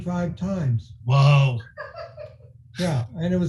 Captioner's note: laughing